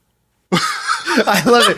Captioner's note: all laughing